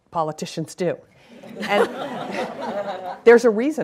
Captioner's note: laughing